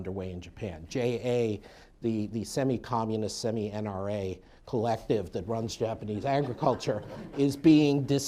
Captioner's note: laughter